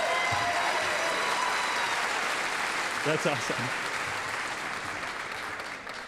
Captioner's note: applause and cheers